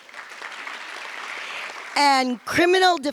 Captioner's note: audience applause